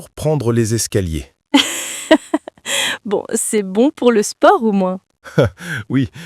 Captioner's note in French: rire